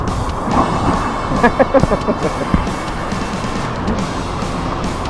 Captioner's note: laugh